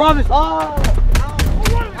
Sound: yelling

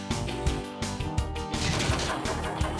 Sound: clattering

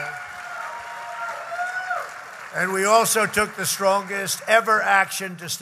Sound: applause

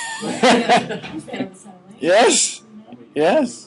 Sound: all laughing

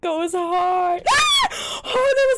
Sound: shrieks

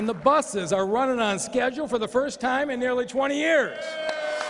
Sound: applause

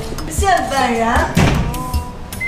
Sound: bang

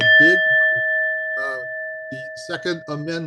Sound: bell rings

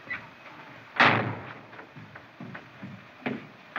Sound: slams

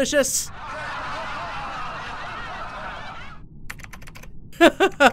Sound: laughing sounds; laughs

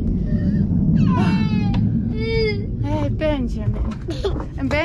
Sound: crying

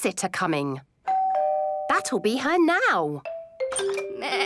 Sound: doorbell rings

